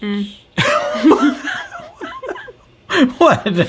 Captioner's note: laughs